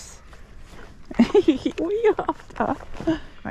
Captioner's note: giggling as horse tries to eat my waist bag